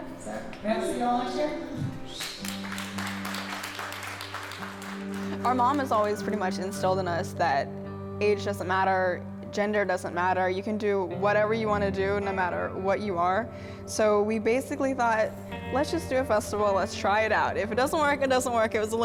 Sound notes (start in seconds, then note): 2.0 audience clapping